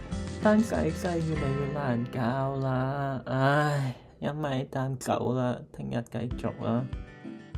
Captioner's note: sigh